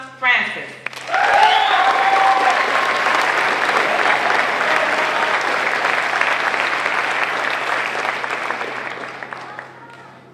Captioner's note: applause